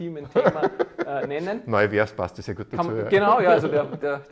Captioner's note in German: lacht